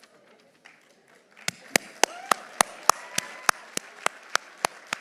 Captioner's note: audience applauding